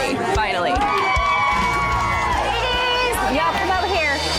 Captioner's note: upbeat music; women cheering